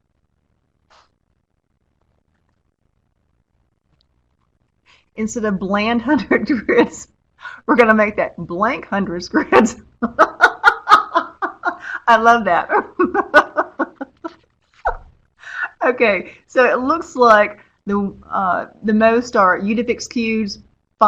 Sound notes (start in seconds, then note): 6.3 laughs; 10.0 laughs